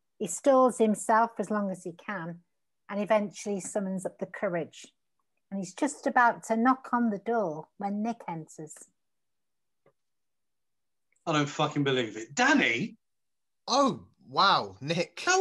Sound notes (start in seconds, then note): none